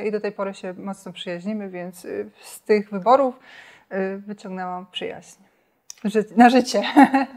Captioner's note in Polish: śmiech